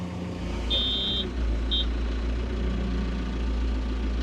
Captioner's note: forklift beeping